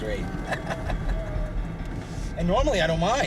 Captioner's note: chuckling